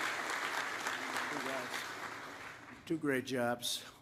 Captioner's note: applause